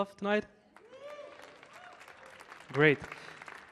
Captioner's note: audience clapping; audience cheering